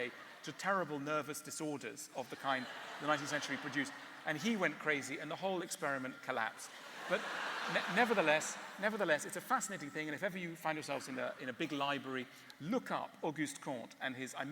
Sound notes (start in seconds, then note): 6.7 laughter